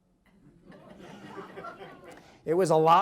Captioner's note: audience laughs